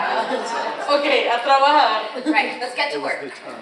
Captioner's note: speaks foreign language